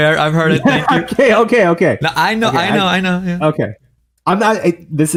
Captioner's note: laughs